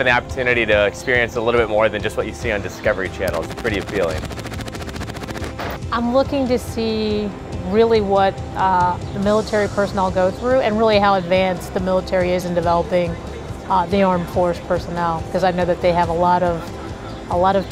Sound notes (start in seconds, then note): 5.0 gunfire